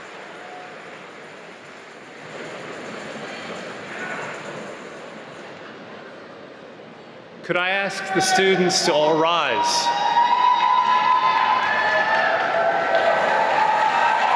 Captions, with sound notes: - Could I ask the students to all rise. (cheering)